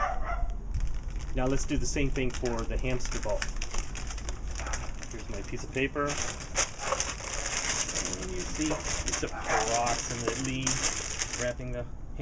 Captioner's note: barking